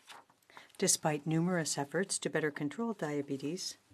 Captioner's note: speaking in French